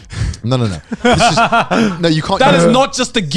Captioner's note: laughing